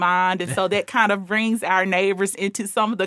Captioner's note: chuckling